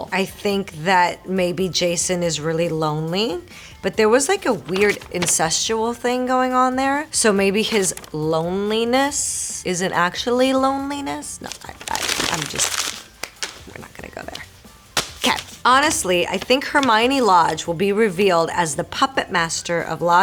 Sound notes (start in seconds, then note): 11.3 paper crunching; 15.7 Marisol reading fan letter aloud